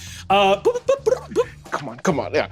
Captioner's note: vocalizes beeps